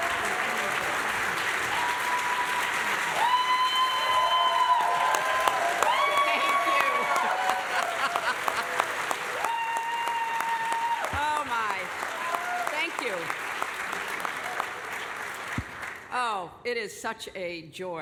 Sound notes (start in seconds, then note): 3.1 applause and cheering; 6.9 laughter